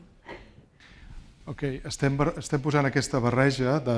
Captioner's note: speaking spanish